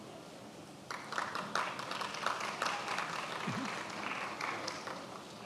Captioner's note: attendees applauding